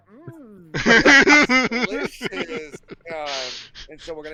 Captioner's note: laughter